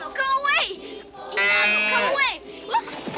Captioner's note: calf moos